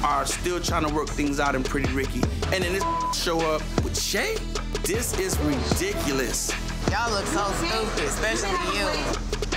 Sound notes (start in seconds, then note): 2.7 beep